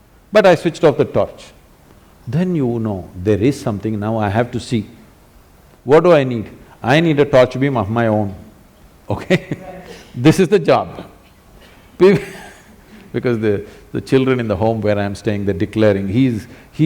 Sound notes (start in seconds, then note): 11.6 laughs